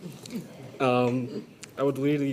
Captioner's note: people chuckle